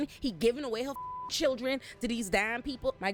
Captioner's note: beep